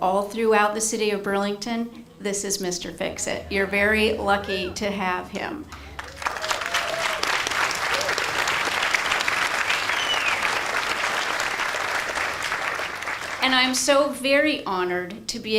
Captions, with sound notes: all throughout the city of Burlington, this is Mr. Fix-It. You're very lucky to have him. (audience applauds) And I'm so very honored